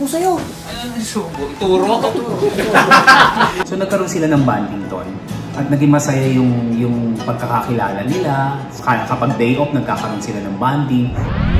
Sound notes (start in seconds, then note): 1.9 laughing